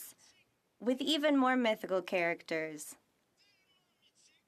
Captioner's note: speaking French